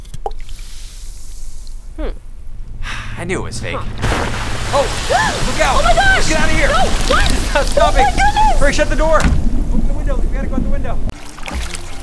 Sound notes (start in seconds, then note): 0.5 gas hissing; 3.4 gas exploding; 9.2 door bangs shut